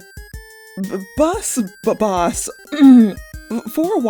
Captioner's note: clears throat